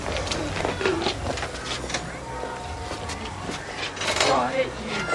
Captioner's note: doorbell rings